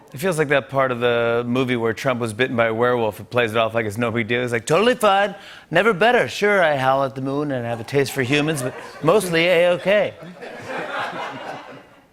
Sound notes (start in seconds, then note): 4.5 As Trump; 10.5 laughter